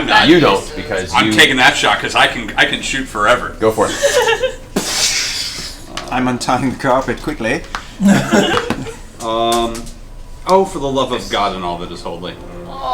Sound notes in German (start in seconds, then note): 5.3 Gewehrschuss; 8.0 Gelächter; 12.7 seufzt